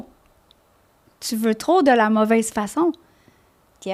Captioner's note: in french